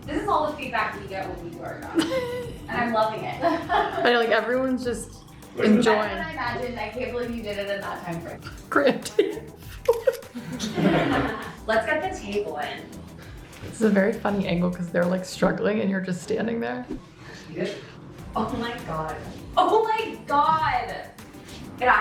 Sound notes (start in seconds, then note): 1.9 laughs; 8.7 laughs; 9.8 everyone laughs; 10.3 camera clicks